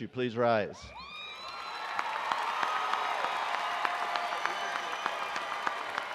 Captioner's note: attendees cheering and applauding